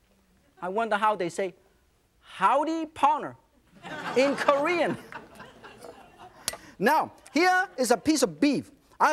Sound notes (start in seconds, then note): 3.7 audience laughs